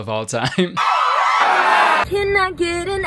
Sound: audience screaming

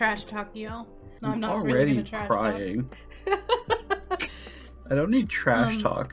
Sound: laughs

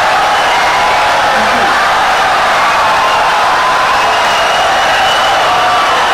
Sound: audience cheering, applauding for 17 seconds

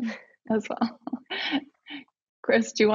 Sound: laughs

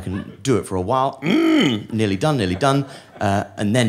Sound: grunting forcefully

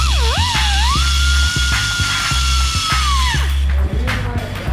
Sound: upbeat funky music; drill whirring

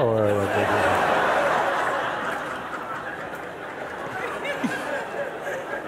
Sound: laughter

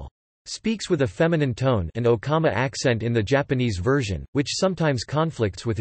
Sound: an okama accent in the Japanese version

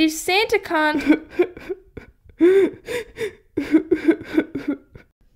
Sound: sobbing

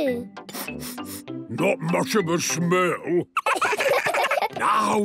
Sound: sniffing; sniffs

